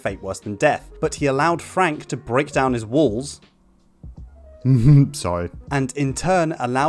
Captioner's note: laughs